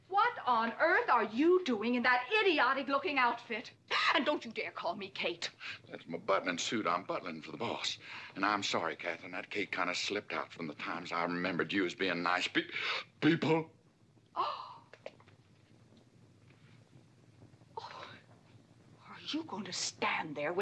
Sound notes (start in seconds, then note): 12.7 gasps; 13.5 exasperated tone; 14.2 Katherine gasps